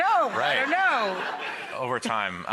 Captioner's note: audience laughs